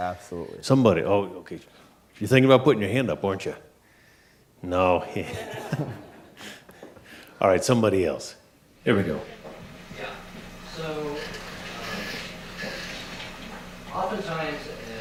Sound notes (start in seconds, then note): 5.2 audience laughing